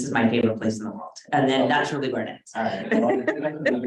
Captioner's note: laughs